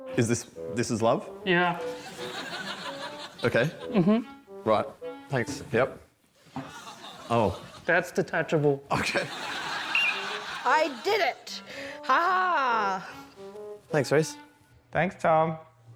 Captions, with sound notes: Is this... This is love? Yeah. OK. Right. Mm-hm. Thanks. Yep. Oh. That's detachable. OK. (BLOWS WHISTLE) I did it. Ha-ha! Thanks, Rhys. Thanks, Tom.